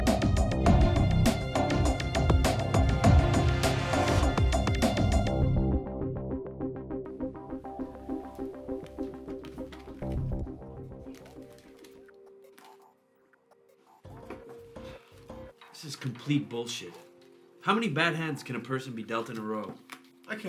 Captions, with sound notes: (poker cards softly riffling) (gentle music) - This is complete bullshit. How many bad hands can a person be dealt in a row?